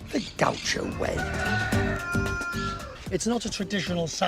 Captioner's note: rooster crows